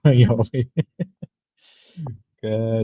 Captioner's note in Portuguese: risada